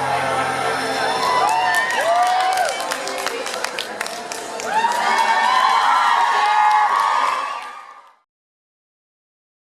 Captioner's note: cheers, applauds